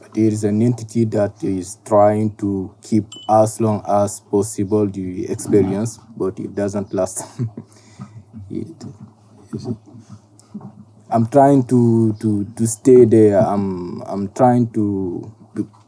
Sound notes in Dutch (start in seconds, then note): 9.5 lacht